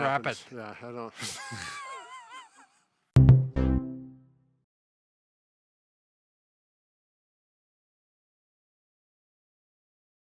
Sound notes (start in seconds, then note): 1.2 laughing